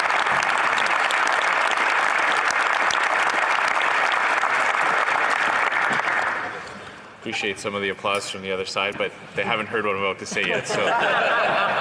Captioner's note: applause